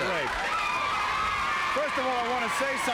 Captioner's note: crowd yelling